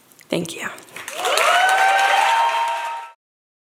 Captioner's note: audience cheers